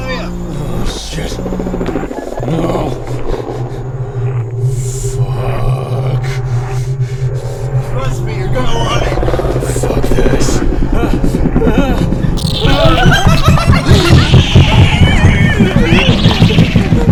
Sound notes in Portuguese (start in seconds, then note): 1.4 Rosnando por trás; 3.0 O ADMINISTRADOR aparece, acompanhado por um toque distorcido; 6.4 Ringing continua; 12.3 O SPIDER grita. KEVIN / THE OBSERVER solta uma risada demoníaca e penetrante; 13.8 NOAH grita. O barulho do SPIDER fica mais alto